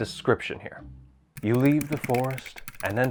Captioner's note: typing sounds